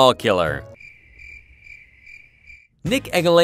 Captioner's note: crickets chirping